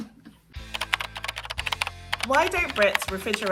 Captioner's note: keyboard clacking